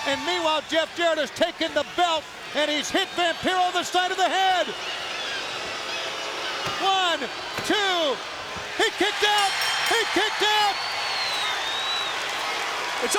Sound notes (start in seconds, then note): 4.7 crowd booing; 6.7 hand smacking; 9.2 bell dinging; 11.3 crowd cheering